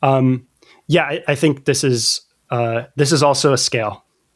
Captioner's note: uh